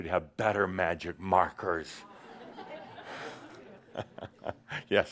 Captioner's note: some chuckles